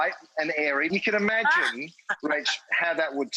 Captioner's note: Rachael laughs